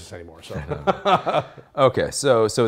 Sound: laughing

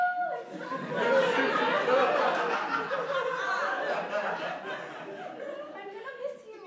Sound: laughter

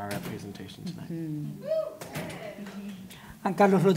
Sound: scattered cheers

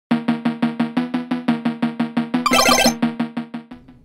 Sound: video game ding

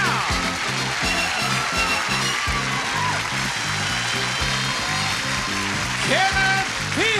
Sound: applause

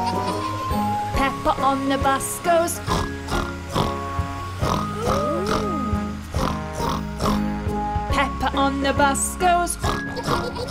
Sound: snort; snort

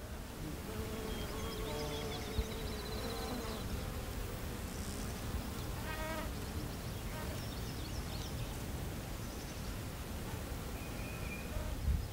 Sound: sounds of flies buzzing, birds chirping, and water flowing

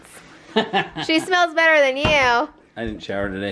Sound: laughs

